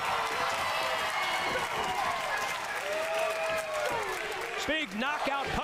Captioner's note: cheering